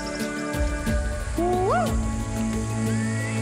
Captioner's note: screams